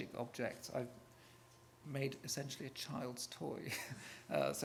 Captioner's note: laughs